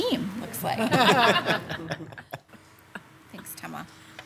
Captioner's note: laughing